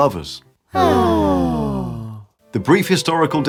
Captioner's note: ahhhh